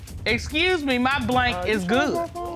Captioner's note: judge dana reading